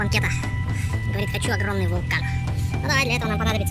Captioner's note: speak in a funny voice